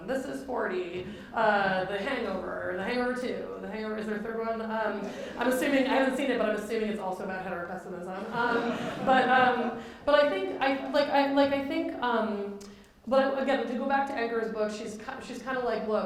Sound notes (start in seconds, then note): 8.2 laughter